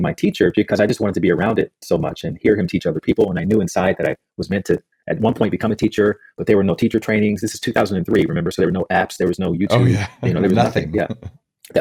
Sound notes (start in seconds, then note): 9.6 laughs